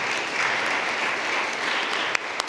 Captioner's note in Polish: oklaski